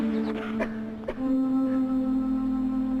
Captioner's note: coughing